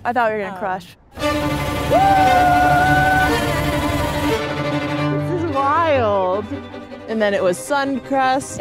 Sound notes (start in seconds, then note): 1.1 dramatic music continues; 1.3 yelling